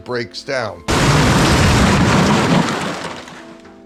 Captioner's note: debris slamming; soft dramatic music continues